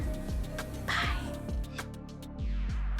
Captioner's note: whispers; gentle music